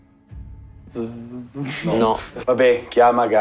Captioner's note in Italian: Rumori di attivazione